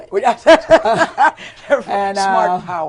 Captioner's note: laughter